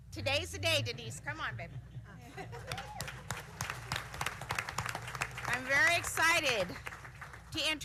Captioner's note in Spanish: aplausos